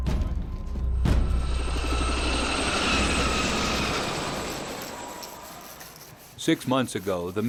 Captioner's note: sound of helicopter rotors; voiceover